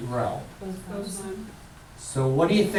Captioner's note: voiceover